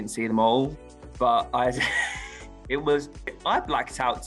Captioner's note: laughs